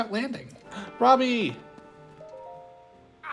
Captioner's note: gasp